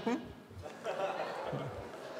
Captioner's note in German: Leises Lachen